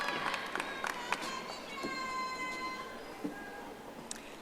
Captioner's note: audience applauding